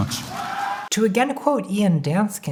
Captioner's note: crowd cheering